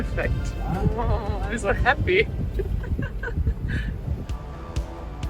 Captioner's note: chuckling; upbeat music